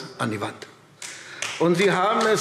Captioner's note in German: Beifall AfD